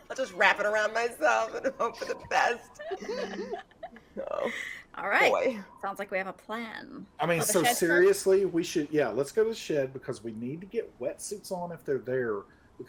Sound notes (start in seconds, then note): 3.2 people laughing